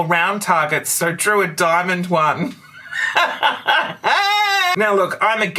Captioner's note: laughter